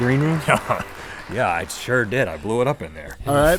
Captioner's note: laughing